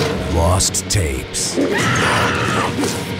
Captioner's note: woman screams